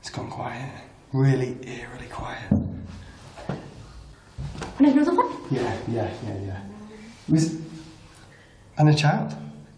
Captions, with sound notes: It's gone quiet, really eerily quiet. (bumping sound) - And another one? - Yeah yeah, yeah yeah. It was, and a child?